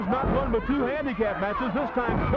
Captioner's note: blows thudding